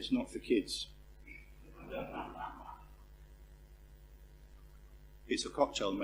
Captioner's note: laugh